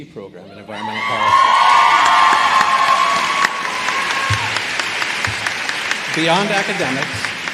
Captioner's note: applause